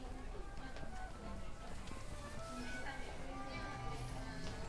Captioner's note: store chatter